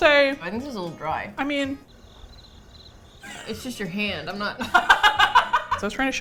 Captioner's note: crickets; both laugh